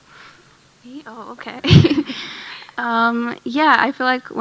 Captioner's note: chuckles